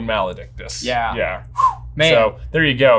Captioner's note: whistling